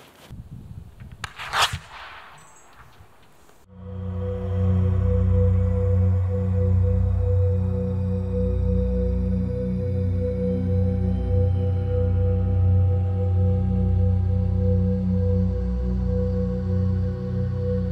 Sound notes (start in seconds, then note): 1.3 pfwoosh!, echoes